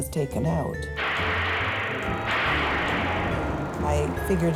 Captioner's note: gunshots